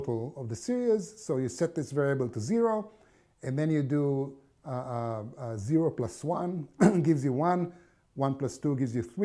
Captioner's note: cough